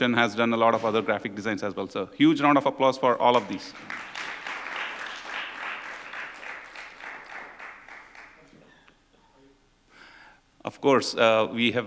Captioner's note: applause